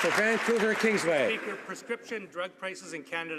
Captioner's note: some Applause